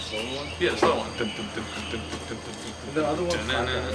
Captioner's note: humming